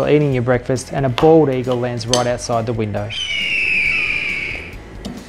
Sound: eagle screeches

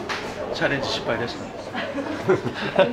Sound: laughs

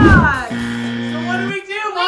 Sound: buzzing

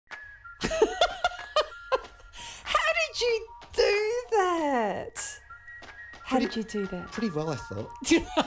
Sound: laughing

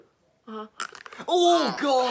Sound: loud crack

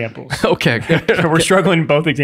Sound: laughs

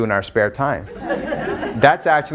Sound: audience laughs

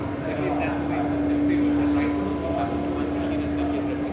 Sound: audience speaks softly

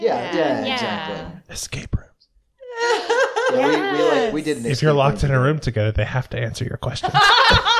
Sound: all agreeing; whispers; laughter

